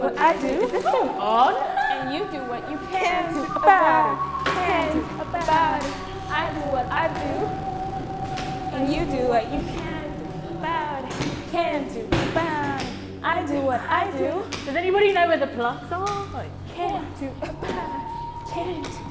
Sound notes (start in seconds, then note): 4.3 others chant